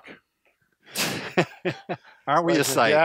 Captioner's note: laughing